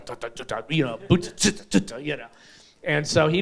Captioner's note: beatboxing